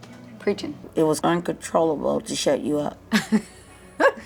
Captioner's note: laughing